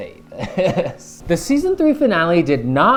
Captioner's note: laughs